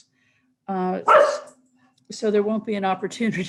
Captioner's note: dog barking